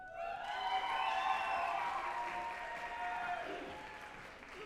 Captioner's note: group applauding and cheering